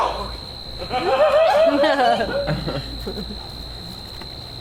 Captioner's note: audience laughs